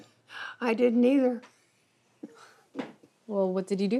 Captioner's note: chuckles